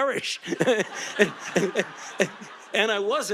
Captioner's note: audience laughing